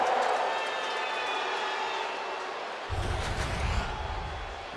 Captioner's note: crowd boos